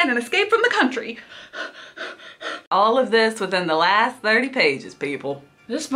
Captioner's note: heavy breathing